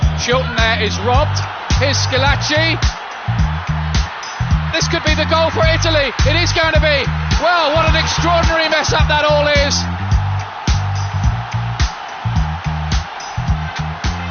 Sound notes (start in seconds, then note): 11.1 crowd yelling